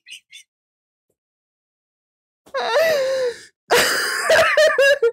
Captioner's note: wheezing laughter